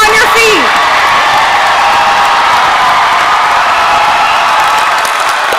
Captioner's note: audience cheering and applauding